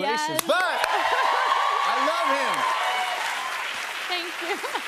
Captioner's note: cheers and applause